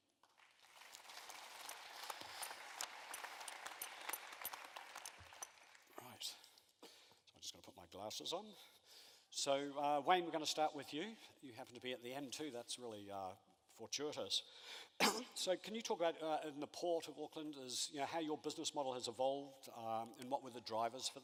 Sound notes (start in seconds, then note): 0.3 audience applauses